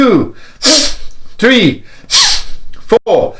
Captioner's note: deep breaths